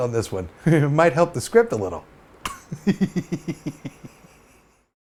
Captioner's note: laughs